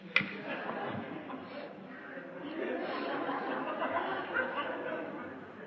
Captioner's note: laughter